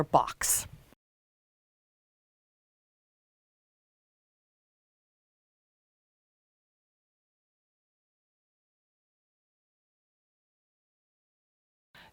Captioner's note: no Sound Present